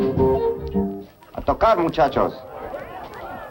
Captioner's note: speaking spanish